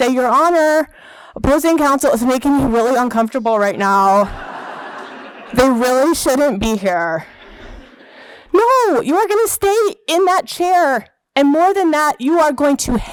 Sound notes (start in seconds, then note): 4.2 laughter